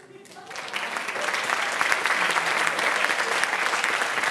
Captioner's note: applause